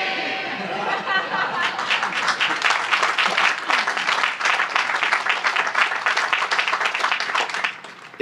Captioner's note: laughter and Applause